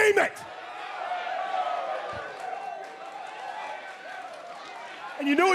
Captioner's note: crowd cheering